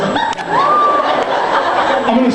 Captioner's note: laughs